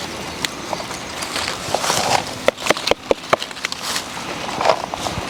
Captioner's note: tapping